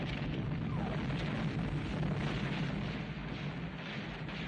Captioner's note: gunfire, Explosions Continue